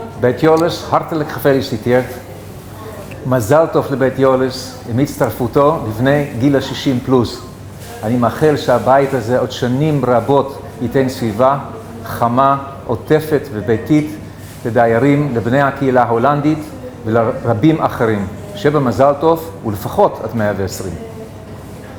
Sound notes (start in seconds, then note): 2.1 Hebrew